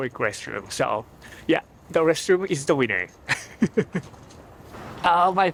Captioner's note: laughs